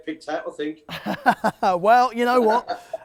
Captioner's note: laughter